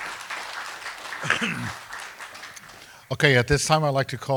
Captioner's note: coughs